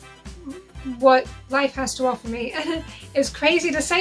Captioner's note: chuckles